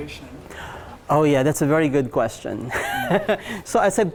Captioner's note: laughs